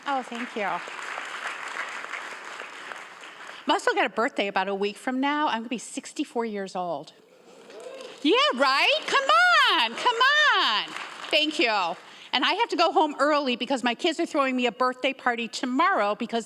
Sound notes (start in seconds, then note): 0.0 audience applauding; 8.4 audience cheering